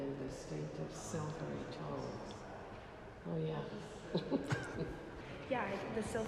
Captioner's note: laughter